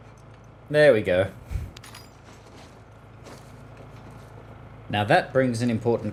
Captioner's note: exhales in humour